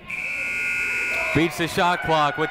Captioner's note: buzzer ringing